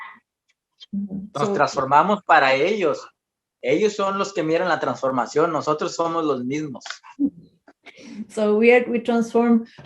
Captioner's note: speaks in Spanish